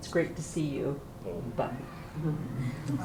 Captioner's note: non-english